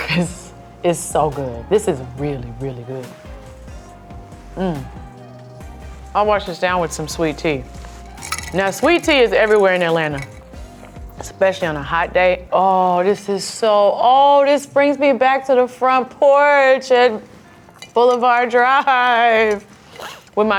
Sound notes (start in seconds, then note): 4.4 hums